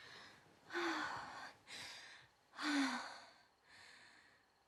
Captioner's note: Betty gasping